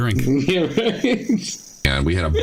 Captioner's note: laughter